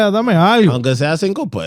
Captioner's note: non-english Speech